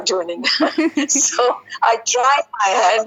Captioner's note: laughing